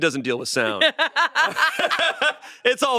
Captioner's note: they laugh